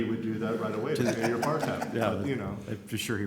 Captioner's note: laughs